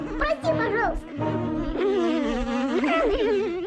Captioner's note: grunting